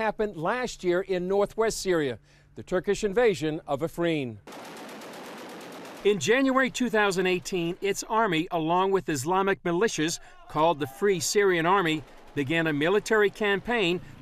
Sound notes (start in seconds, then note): 4.4 machine gun fire